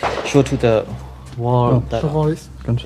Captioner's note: shots